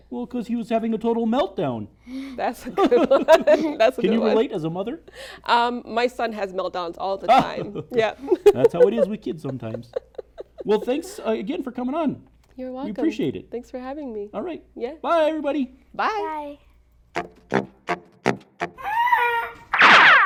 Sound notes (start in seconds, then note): 2.8 laughs; 7.3 laughs; 17.2 silly music